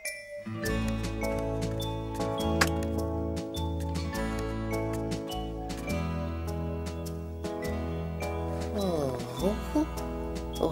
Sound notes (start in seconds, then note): 2.6 light clicks